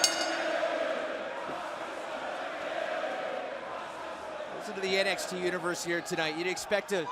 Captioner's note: bell ringing